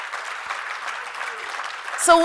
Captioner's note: applause